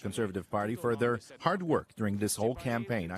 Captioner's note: speaking in French